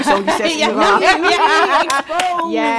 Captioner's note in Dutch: gelach